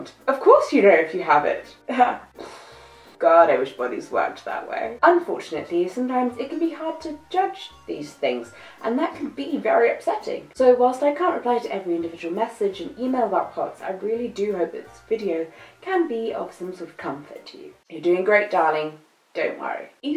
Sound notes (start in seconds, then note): 2.3 blows raspberries